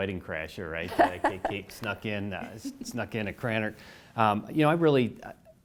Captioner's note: laugh